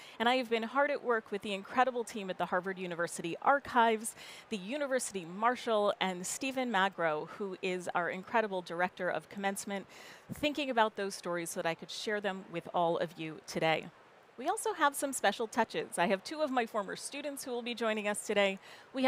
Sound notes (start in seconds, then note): none